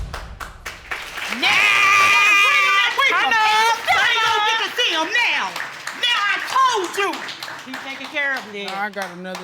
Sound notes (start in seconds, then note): 0.2 audience applauding; 0.9 cheering